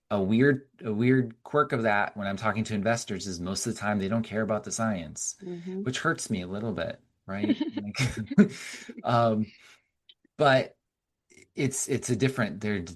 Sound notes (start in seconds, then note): 7.4 both chuckling